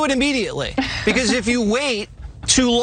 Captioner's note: laugh